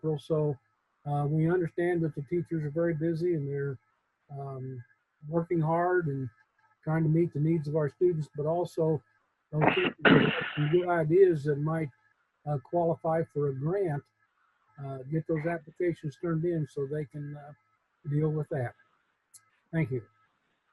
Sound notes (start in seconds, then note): 9.9 speaks faintly